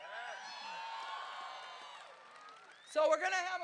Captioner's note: crowd cheering